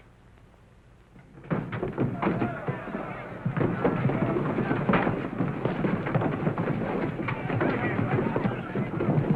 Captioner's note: sound of fight - fuss